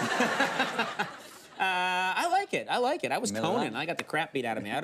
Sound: studio audience laughs; laughs

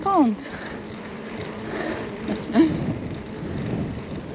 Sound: laughter

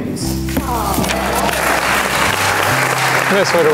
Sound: crowd applauds

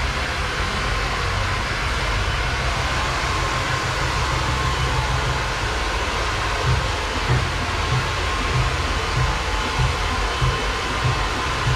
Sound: applause

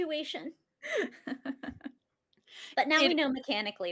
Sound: laughs

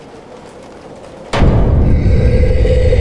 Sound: boom

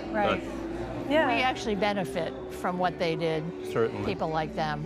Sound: none

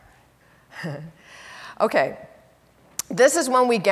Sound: laughs

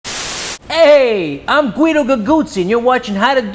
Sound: static hisses

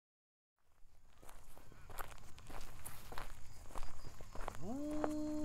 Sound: cautious steps crunch on a gravel path in the darkness; A wolf's howl rises to the night sky, as others reply

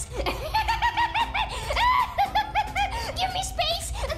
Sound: stupid laughter

